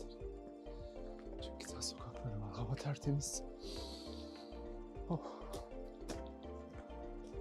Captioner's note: breathing deeply